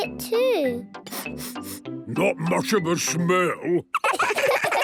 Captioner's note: sniffing; sniffs